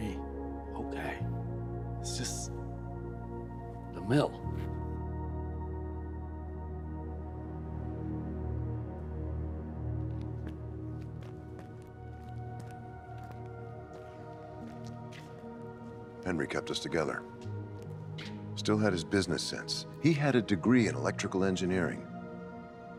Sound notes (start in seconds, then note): 6.7 eerie music; 12.7 footsteps tapping